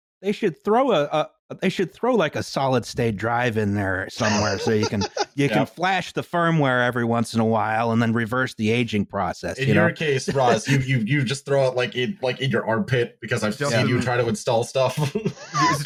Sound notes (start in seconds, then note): 4.2 laughing quite a bit; 9.6 laughs